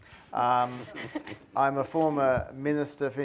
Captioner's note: chuckles